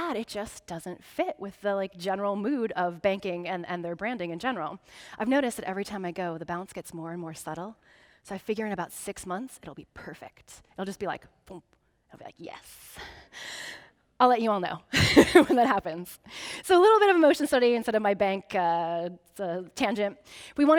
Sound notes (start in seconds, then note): 14.9 laughing